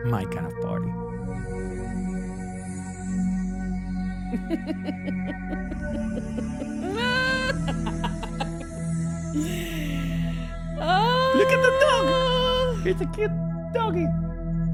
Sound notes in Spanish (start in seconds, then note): 0.1 Música dramática; 10.9 risas